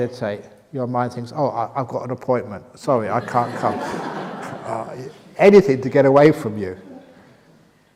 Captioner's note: laughter